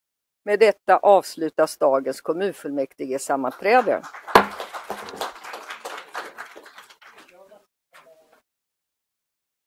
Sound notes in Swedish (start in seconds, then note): 3.4 Applåder